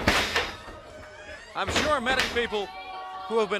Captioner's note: crowd chatter